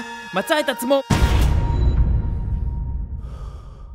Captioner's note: cue explosion